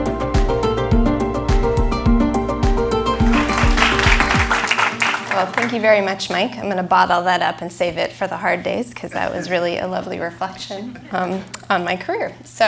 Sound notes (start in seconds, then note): 3.2 applause